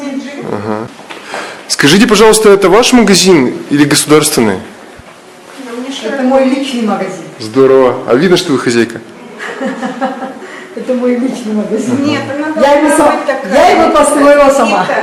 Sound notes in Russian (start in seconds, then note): 9.3 смеется